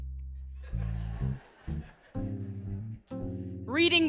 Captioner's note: laughter